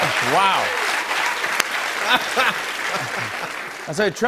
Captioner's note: laughs